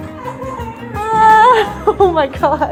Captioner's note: laughing